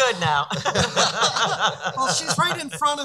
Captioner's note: laughing